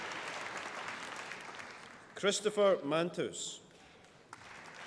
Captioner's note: applause